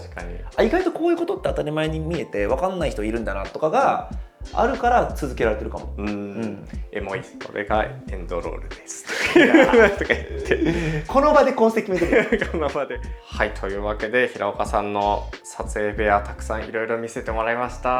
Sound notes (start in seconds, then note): 11.6 laughs